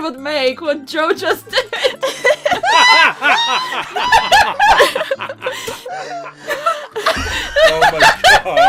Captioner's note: laughter